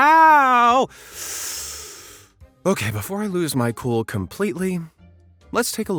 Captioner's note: inhales